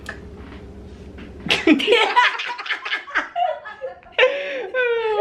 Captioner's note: laughter